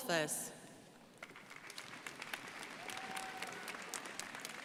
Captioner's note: crowd applauding